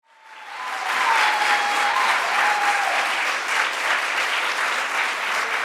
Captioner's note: audience cheering and applauding